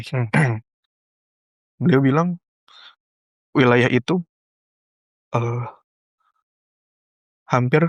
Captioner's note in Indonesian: berdehem